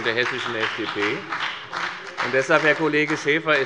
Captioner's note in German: Beifall bei der FDP